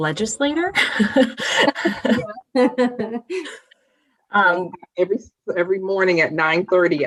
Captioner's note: laughter